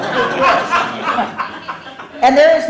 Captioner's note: laughter